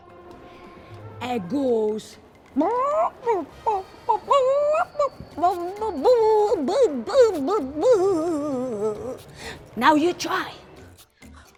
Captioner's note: melodic squawking